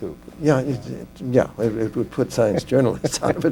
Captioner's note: laughter